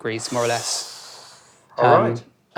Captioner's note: exhales